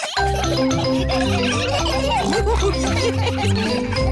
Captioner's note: all laughing